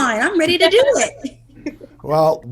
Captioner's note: Maci and Ashley laughing